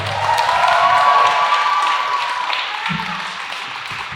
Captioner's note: audience cheers